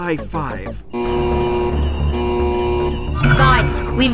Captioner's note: alarm blaring